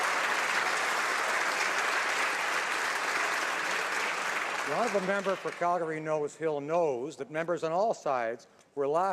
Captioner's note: some Applause